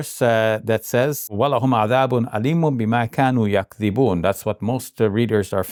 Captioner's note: speaking in Arabic